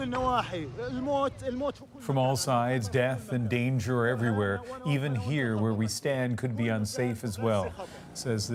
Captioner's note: speaking alternate language